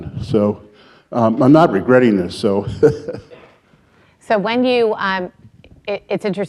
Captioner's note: laughing